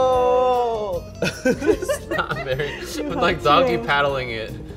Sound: laughing

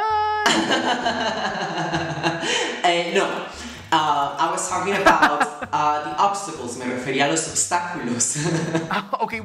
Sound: laughs

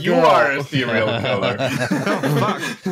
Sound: laughter

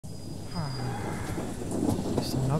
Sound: sigh

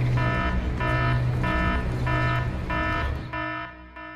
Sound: warning Buzzer

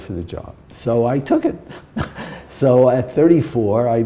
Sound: chuckle

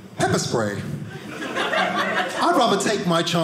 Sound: audience laughing

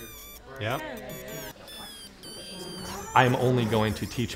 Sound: circuit squeaks

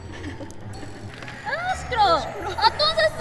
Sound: beep!! Beep!!

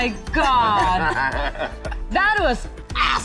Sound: laughs

